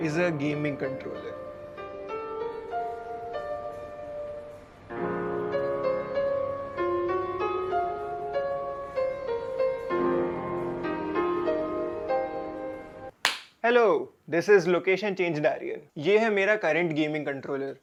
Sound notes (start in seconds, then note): 13.2 claps